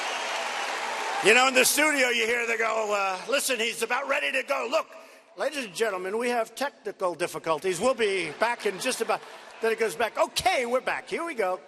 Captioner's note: cheers and applause